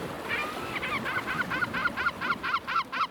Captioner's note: seagulls squawking